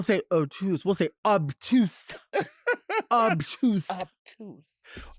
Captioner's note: laughing